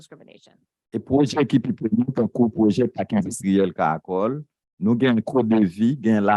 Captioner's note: speaking a foreign language